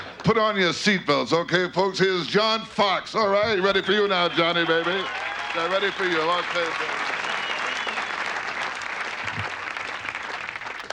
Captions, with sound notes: - Put on your seat belts, okay folks? Here's John Fox, alright? Ready for you now, Johnny, baby. They're ready for you. (audience cheers)